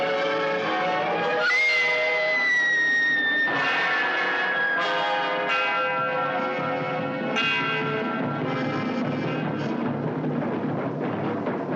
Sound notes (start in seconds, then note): 1.3 screaming; 8.7 drums Beating